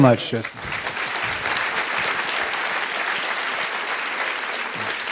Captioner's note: audience applauding